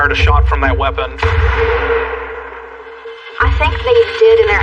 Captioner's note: gunshot